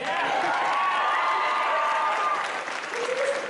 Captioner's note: audience cheers